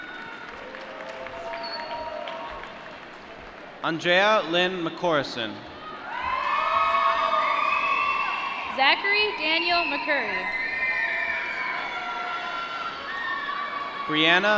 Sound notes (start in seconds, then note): 0.0 applause; 6.2 applause; 11.2 applause